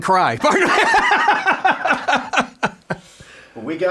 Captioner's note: laughing